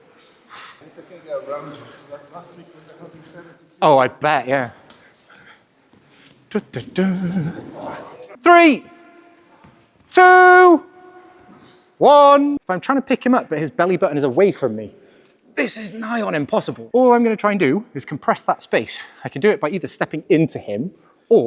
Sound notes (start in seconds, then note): 5.2 humming; 5.2 laughter